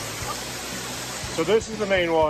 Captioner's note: water rushing